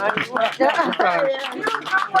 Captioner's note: audience applause